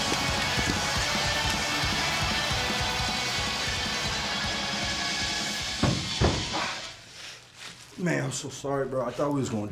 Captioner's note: crowd cheering